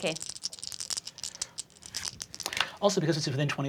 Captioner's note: dice rattling